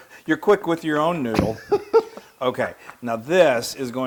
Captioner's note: laugh